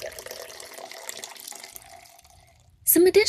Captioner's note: liquid pouring